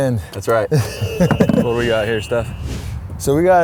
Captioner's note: laughs